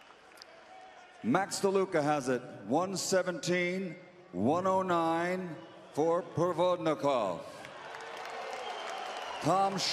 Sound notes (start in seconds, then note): 7.1 scattered applause